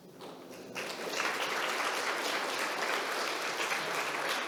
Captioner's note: audience clapping